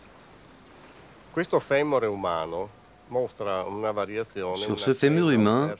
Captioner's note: Italian spoken audio